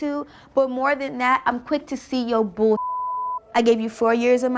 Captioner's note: beep